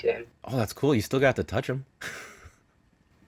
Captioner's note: laughs